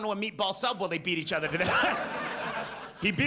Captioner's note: laughs